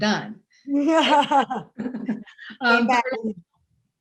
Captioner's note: laughs